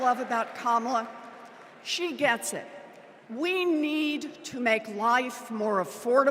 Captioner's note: cheers and applause